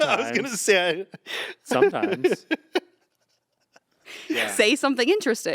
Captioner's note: laughs